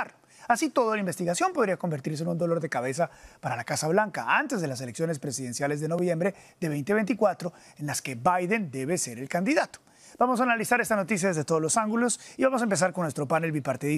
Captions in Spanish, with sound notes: CARTER. [HABLA EN INGLéS] LUIS:AHORA, LA TELEVISIóN CONSERVADORA DICE QUE SI HAY MANERA EL MOTIVO POR EL METICAL.